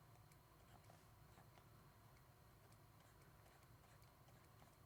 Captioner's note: computer mouse clicking